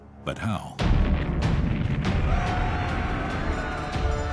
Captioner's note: explosion; mob shouting